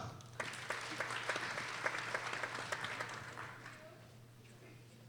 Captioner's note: people applauding